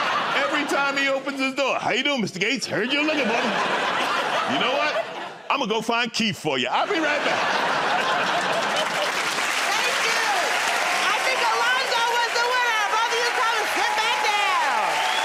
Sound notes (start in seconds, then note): 6.7 laughter; 7.9 applause